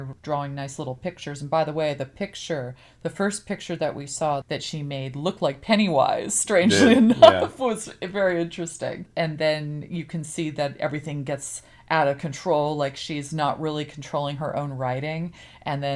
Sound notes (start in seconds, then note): 6.6 laughs